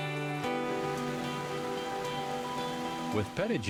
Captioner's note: gentle music continues; water rushing